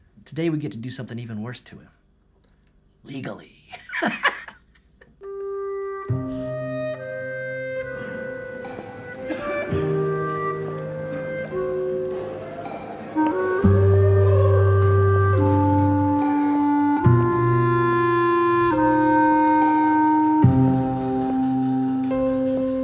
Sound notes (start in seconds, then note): 3.7 warden laughing; 4.0 melancholy music; 9.2 prisoner coughing